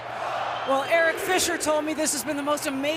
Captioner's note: crowd chanting